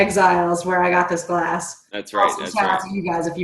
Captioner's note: murmurs